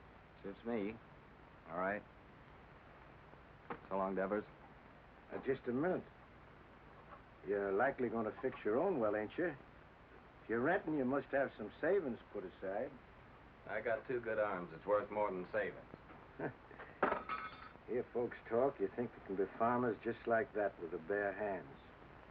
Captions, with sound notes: - Suits me. All right. So long, Devers. - Now just a minute... You're likely going to fix your own well, ain't ya? If you're renting, you must have some savings put aside. - I got two good arms. It's worth more than savings. (Devers scoffs) - You hear folks talk, they think they can be farmers just like that with their bare hands.